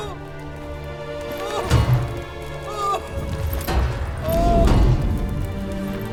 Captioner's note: banging; wailing